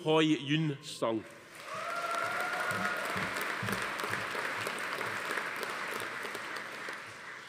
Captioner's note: audience applauding; attendee cheering